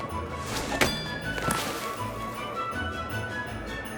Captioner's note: upbeat music; target dinging; upbeat music